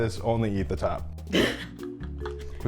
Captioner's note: laughter